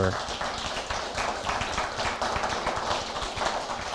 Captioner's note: applause